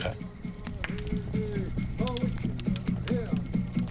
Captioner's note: chanting; drumming, rattling